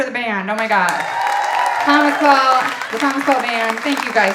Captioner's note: audience applauding and cheering